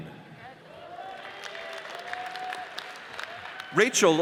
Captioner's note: audience cheers and applauds